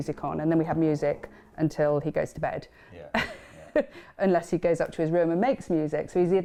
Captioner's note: laughs